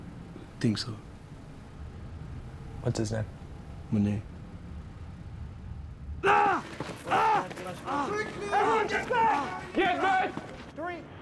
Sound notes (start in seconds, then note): 6.2 screaming